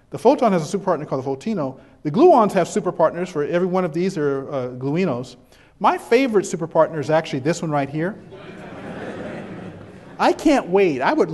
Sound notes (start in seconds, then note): 8.1 background chuckles